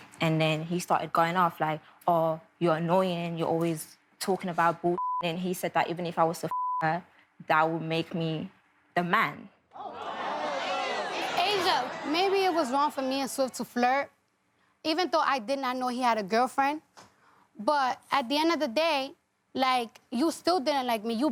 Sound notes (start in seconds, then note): 5.0 beep; 6.5 beep